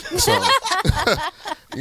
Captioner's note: group laughing